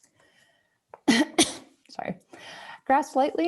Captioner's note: coughs